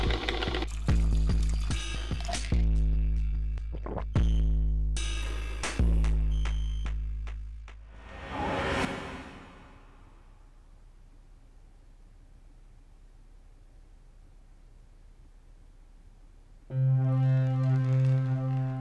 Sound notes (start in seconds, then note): 7.9 mysterious etherial whooshing; 10.1 silence; 16.6 ominous music